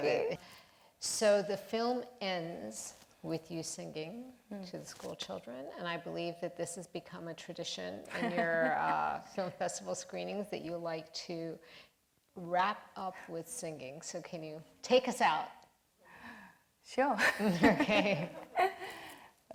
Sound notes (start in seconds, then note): 17.6 laughs